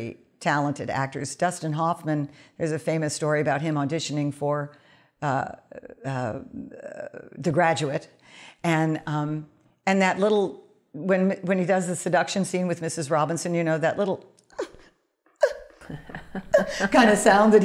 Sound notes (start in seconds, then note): 15.4 imitates whimpering